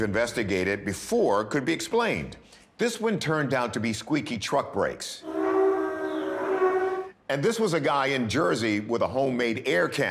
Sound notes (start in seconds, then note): 6.0 squeaking